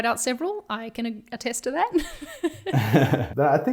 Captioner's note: chuckling